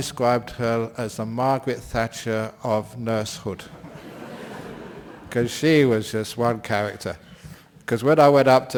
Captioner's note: laughter